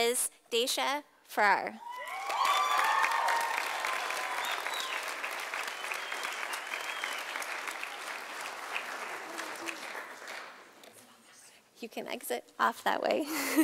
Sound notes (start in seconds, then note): 1.9 sound of applause from audience; 8.9 quietly; 13.3 chuckle